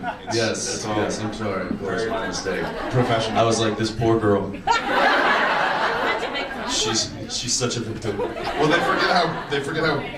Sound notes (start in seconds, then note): 4.4 audience laughs